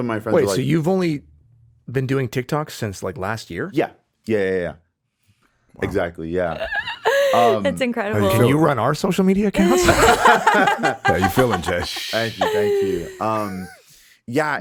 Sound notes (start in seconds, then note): 6.5 chuckles; 9.6 all laughing